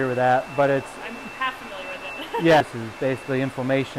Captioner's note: laughs